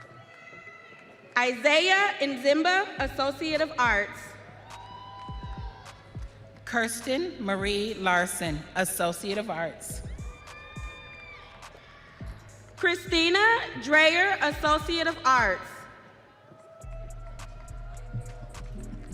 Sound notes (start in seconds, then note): 0.2 audience cheering; 11.6 audience cheering